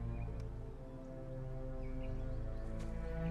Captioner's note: bird chirp